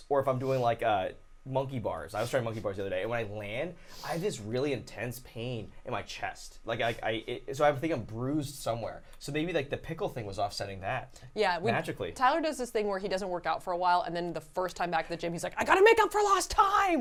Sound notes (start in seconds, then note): none